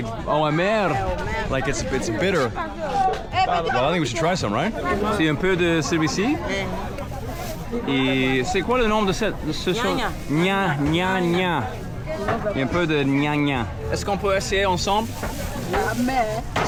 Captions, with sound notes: - Like, it's bitter. I think we should try some, right? (people speaking in foreign language)